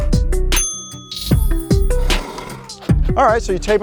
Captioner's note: ding